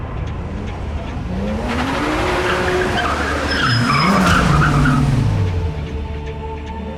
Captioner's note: tense music; car engine roaring; car tires screeching